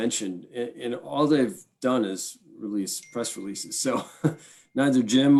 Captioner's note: laughs